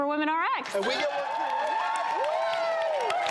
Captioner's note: cheering